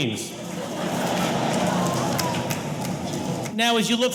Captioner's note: audience laughing